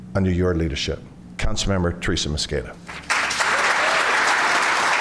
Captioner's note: applause